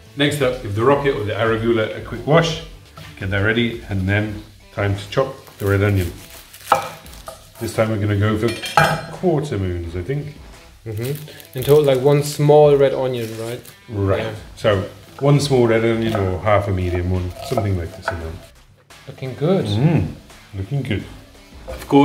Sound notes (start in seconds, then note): 6.6 knife chopping